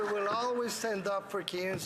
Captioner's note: some Applause